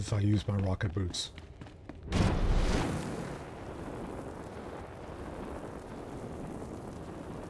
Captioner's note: explosion